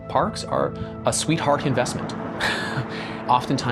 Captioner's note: laughs